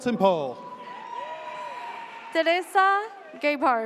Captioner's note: audience cheers